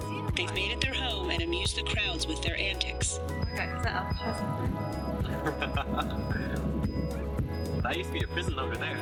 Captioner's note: laughs